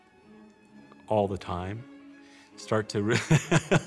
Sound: laughs

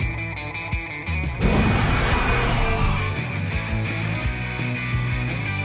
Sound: rock music; dinosaur roars

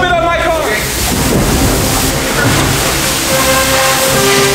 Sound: plastic rustling

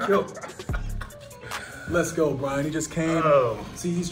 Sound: laugh

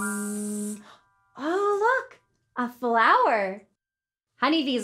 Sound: gasps

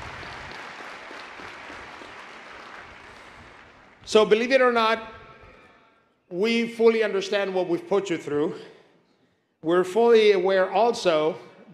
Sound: applause

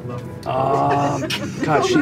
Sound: laughter

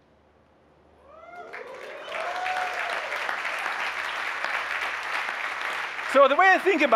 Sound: applause

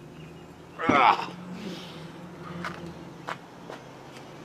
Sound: both groaning

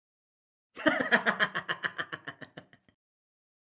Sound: evil Laugh

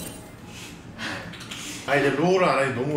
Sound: laughing

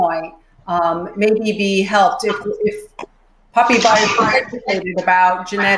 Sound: microphone cuts out

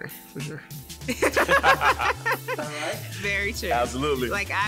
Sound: laughs

